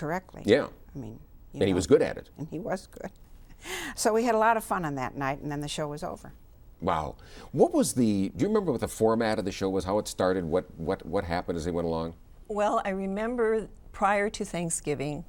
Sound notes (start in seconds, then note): 4.3 laughs